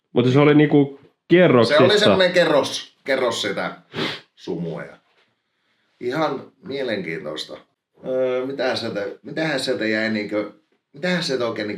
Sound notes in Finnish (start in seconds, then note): 3.9 niiskauttaa